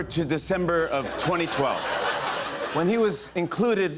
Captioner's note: laughter